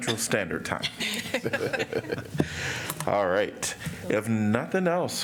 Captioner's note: laughter